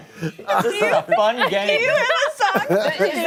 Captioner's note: laughter